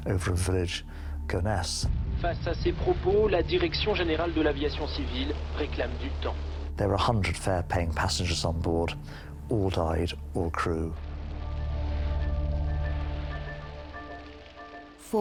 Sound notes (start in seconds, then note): 2.1 announcer speaking French; 11.5 tense pensive music